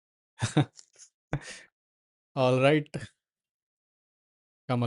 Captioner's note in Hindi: हंसी